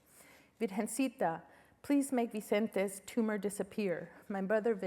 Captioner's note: spanish